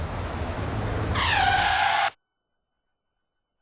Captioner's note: tires screeching